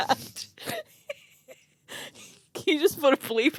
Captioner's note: girls chuckling